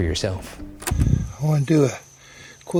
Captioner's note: transition clacking